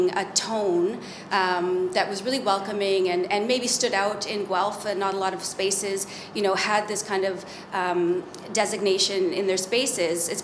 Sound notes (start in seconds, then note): none